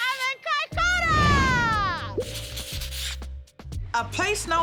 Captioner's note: whoosh! pop! rustling